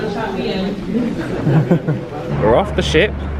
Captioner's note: passengers chuckling